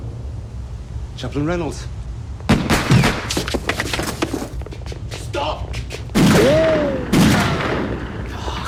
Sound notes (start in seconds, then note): 2.4 gun firing